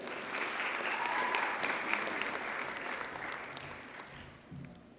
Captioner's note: audience cheers and applauds